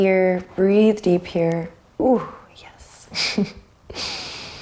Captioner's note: chuckles